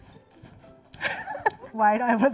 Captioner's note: laughing